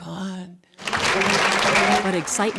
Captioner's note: cheering and applause